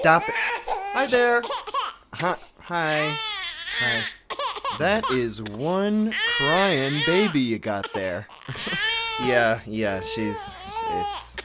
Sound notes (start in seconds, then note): 0.0 sounds of perpetually crying infant; 8.3 laughing uncomfortably